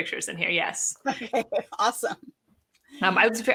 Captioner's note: laughs